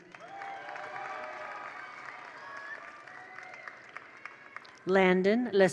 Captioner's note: attendees applaud; attendees cheer